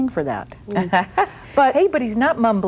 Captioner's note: chuckles